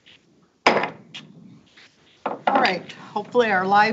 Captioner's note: gavel thuds